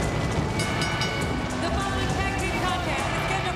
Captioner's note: bell rings